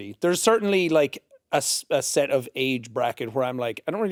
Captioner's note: none